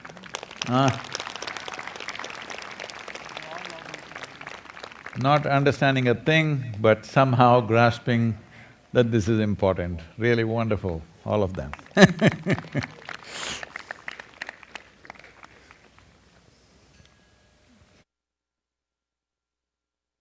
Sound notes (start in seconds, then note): 0.0 applause; 14.3 laughs